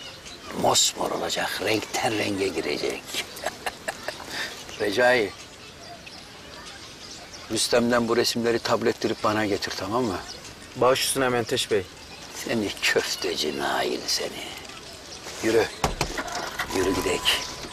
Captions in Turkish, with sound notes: Mosmor olacak, renkten renge girecek. (Gülme sesi) Recai. Rüstem'den bu resimleri tabettirip bana getir, tamam mı? Başüstüne Menteş Bey. Seni köfteci Nail seni. Yürü yürü, gidelim.